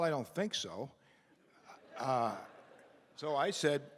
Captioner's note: laughter